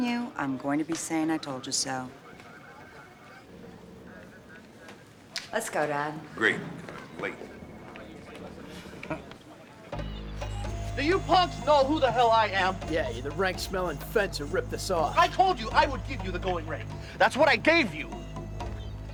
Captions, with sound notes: I'm telling you, I'm going to be saying "I told you so." Let's go, Dad. Great, 'cause I'm late. (chuckles) Do you punks know who the hell I am?! Yeah, you're the rank-smelling fence who ripped us off. I told you I would give you the going rate. That's what I gave you.